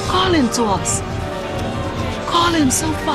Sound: voices whispering

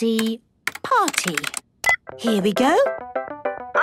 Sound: beep

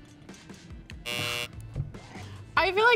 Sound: buzzer buzzes

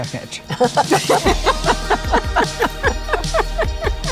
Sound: laughing

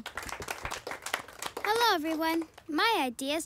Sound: applause

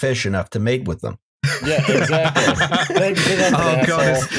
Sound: laughter

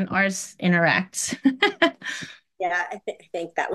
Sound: person laughing

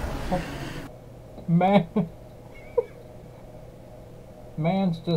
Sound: dying of laughter

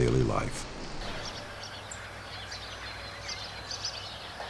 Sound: lakeside sounds

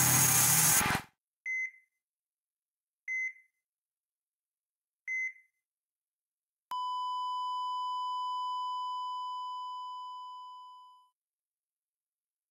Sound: heart rate monitor flatlining, three short beeps, one sustained beep fading out

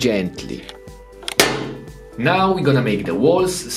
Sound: clay slams

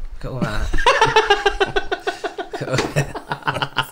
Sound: embarrassed Cackle

